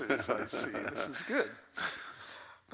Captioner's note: laughs